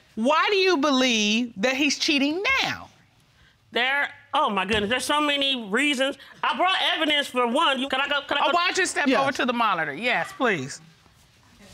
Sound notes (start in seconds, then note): 7.9 stuttering